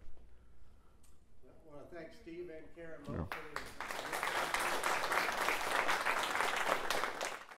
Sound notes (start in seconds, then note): 3.2 applause